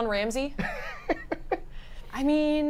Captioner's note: laughs